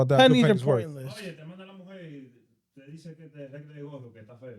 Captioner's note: speaking In Foreign Language